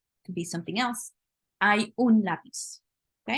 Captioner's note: spanish; speaking spanish